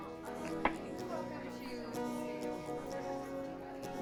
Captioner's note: gentle acoustic guitar music; patrons chatter